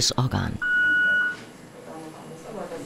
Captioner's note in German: Maschine piept